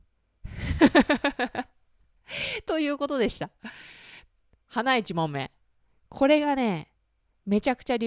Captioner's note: laughter